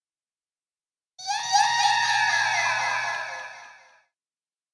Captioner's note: ultra-cute sprite sound